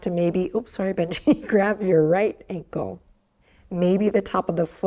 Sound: chuckles

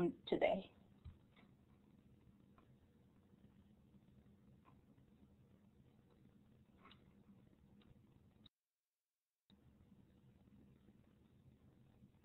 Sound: silence

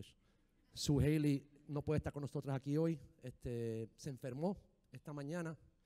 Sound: speaking in foreign language

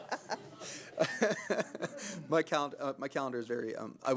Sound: laughter

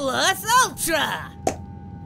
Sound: pop

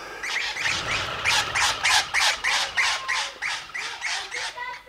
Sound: flock of birds

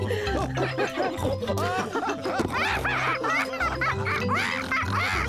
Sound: all laugh; polly laughs

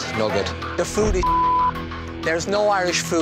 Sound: intense music; beep

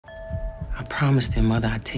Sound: bell dings

